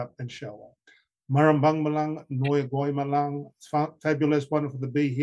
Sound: speaking traditional language

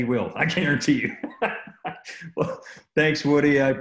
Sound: laughing; laughs

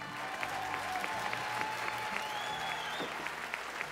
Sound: audience cheering and whistling

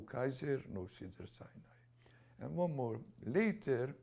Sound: non-english

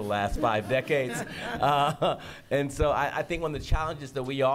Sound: laughter

